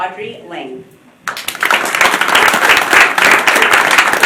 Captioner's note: applause